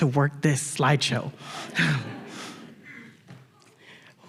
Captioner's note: laughter